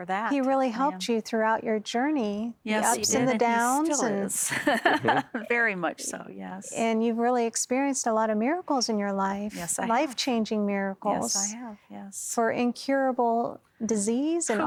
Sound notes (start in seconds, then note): 4.4 laughing